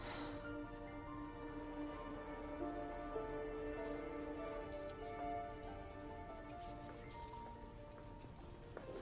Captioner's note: sighs